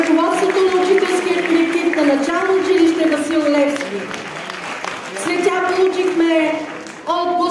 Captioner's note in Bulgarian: аплодисменти